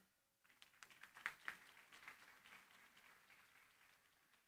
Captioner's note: applause